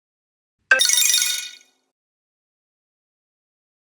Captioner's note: ringtone chiming